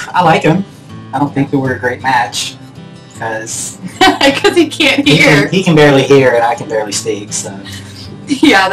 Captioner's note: laughing